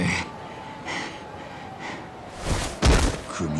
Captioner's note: heavy breathing